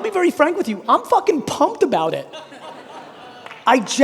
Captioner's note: audience laughing; audience laughing